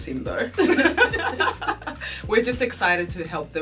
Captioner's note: laughter